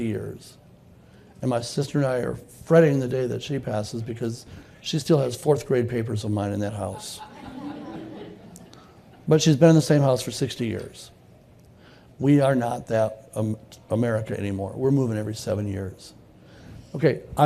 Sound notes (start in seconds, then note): 9.7 laughter